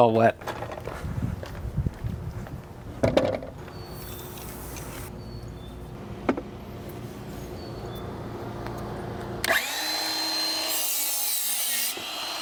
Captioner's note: sawing